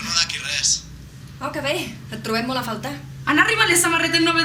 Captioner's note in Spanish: tono irónico